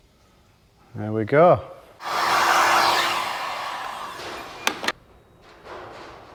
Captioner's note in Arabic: ضجيج مسدس الحرارة